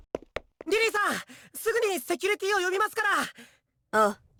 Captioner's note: shout